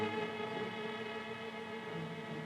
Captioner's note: none